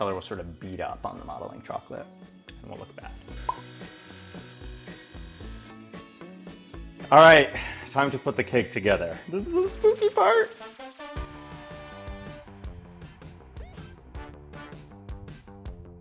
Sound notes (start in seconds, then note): 3.3 airbrush humming; 11.4 upbeat music plays